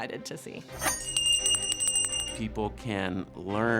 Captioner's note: bell rings